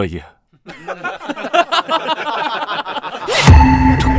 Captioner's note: mocking laughter